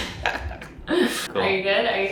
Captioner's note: laughs